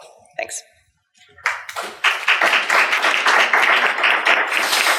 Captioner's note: applauding